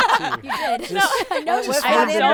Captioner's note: laughing